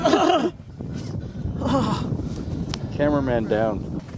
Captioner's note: groaning